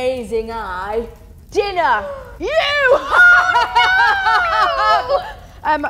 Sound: evil laugh

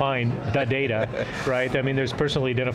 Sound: chuckles

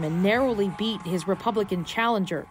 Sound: cheers and Applause

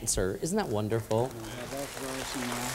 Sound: applause

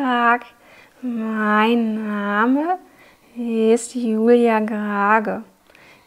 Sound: with stretched sounds

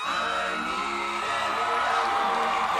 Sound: cheering

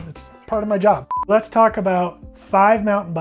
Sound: timer beeping

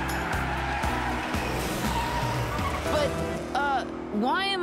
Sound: revving

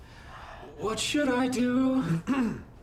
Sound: in robotic voice

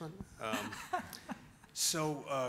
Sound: laughs

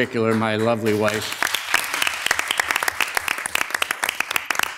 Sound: audience applauding

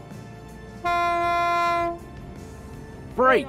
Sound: boat horn sounds

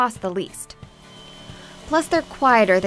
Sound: low electric humming

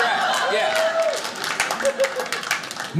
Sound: audience laughing

